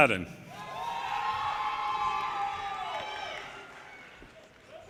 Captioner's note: audience cheers and applause